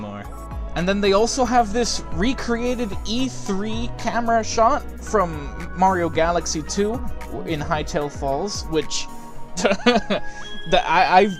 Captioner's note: chuckle